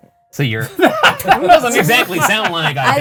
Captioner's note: group laughing